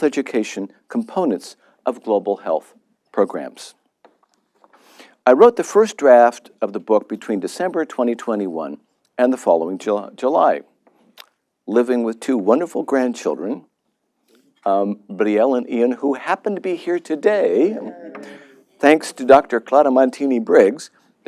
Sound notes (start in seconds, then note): 17.6 laughter